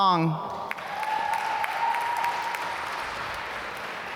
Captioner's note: applause